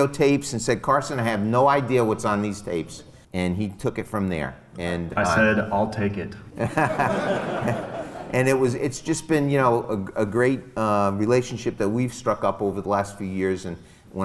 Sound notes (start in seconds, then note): 6.5 laughs